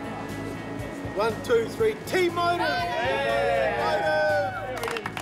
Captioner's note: all cheer